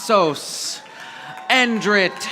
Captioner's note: audience applauding